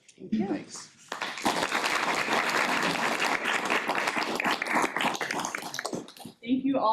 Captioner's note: applause